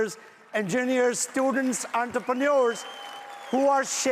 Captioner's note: audience applauds loudly